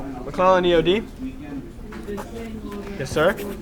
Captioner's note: people chattering